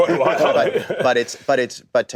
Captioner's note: laughter